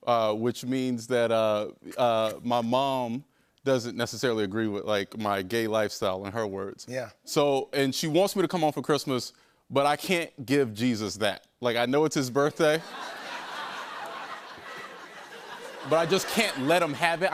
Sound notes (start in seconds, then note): 12.7 laughter